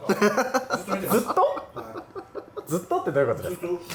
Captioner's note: laughs